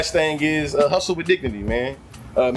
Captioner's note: birds Chirping